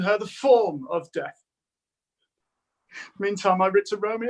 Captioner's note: none